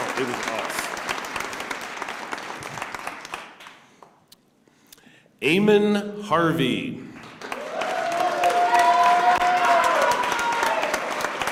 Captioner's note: cheers and applause